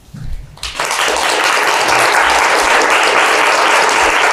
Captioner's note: audience clapping